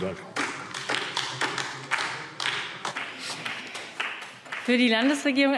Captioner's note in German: Beifall DIE LINKE